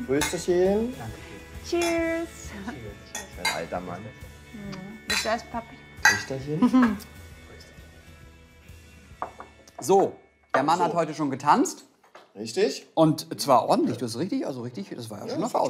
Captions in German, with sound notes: Prösterchen. - Cheers. Alter Mann. - Papi. Töchterchen. (Schmunzeln) (Lockere Musik) So, der Mann hat heute schon getanzt. - Richtig. Und zwar ordentlich, du hast richtig, also richtig ...